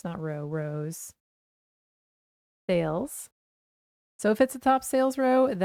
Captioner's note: silence